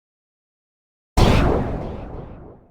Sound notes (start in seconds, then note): 1.2 impact sound